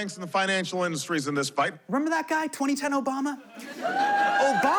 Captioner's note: audience cheers